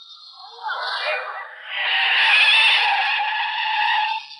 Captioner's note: tires squealing